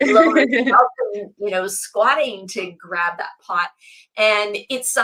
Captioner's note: laughs